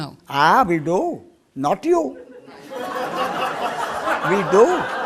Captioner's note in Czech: smích